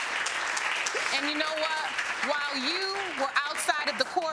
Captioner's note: audience applauding